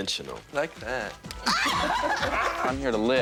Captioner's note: laughs